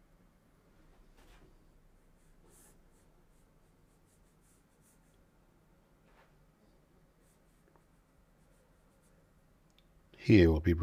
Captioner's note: silence